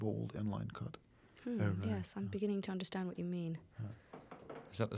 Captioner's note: footsteps Approaching